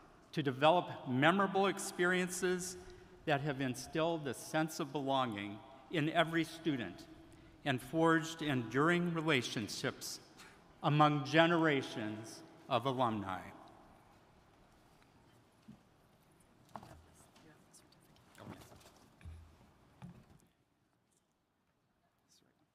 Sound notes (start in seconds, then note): 17.3 converse softly